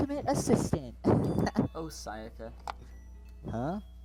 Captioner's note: laughs